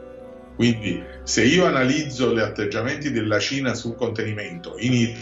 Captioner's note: man speaking a foreign language